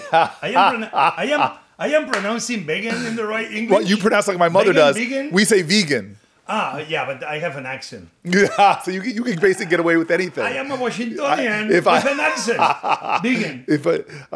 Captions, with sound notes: - I- (Sen. Booker guffaws) - I am pronouncing vegan in the right English? - Well, you pronounce like my mother does. - Veggan, veggan? - We say vee-gan. - Ah, yeah. But I have an accent. - (chuckles) So you, you can basically get away with anything. - I am a Washingtonian- - If I- (laughs) - With an accent! Vegan.